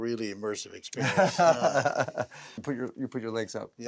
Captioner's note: both laughing